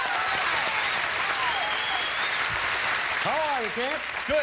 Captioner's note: audience applauding